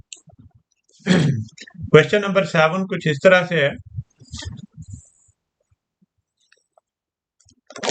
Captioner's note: clears throat